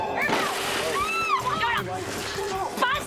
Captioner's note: glass shattering; screams